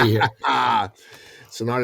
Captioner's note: laughing